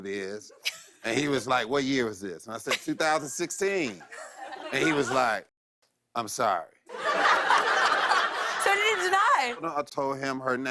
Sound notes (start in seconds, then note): 6.9 laughter